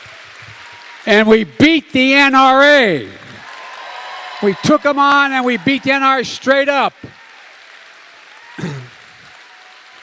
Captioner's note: applause